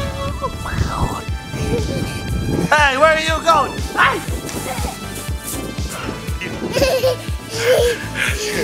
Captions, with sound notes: Hey, where are you going? (laughing)